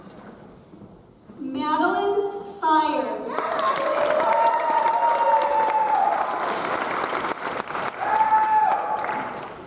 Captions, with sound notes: Madeline Sier. (audience applauds)